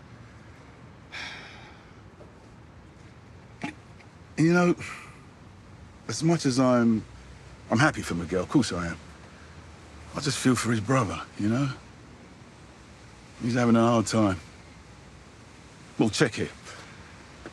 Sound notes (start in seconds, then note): 1.1 he sighs